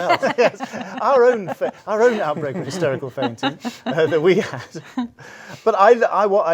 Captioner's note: laughs